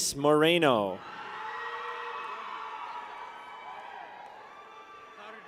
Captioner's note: people cheer